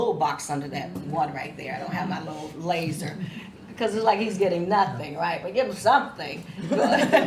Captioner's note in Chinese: 心领神会狂笑声